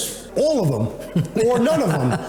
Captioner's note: laughter